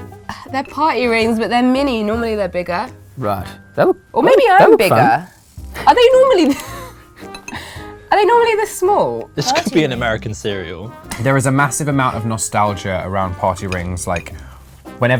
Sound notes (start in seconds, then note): 7.5 laughs